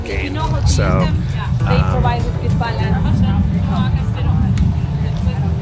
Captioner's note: people chattering nearby